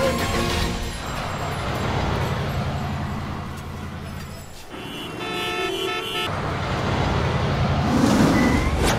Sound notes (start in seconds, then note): 4.5 cars honking